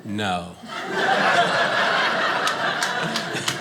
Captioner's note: audience laughing